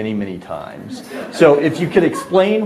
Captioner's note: audience laughs